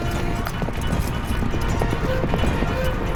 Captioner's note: horses galloping